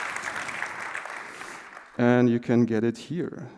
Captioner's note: applause